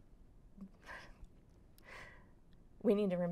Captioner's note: laughs